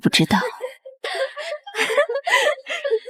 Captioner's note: cackles